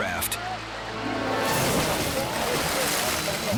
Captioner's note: water plashes